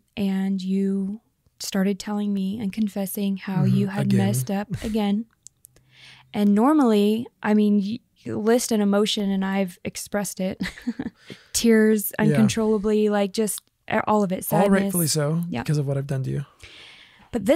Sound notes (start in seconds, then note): 3.6 groans; 12.2 laughs